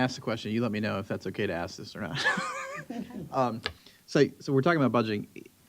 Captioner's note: chuckles